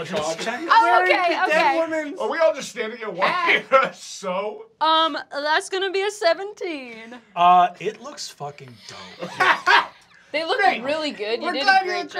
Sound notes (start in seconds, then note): 9.1 laughter